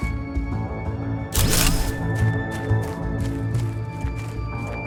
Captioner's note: gun clunks